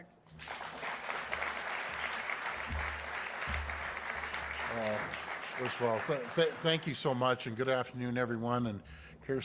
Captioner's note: applause